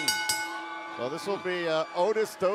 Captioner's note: bell ringing